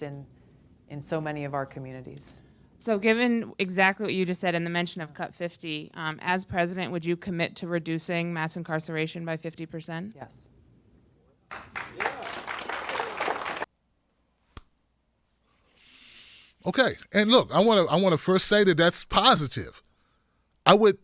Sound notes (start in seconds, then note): 11.5 audience applauds